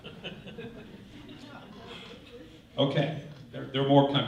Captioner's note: laughter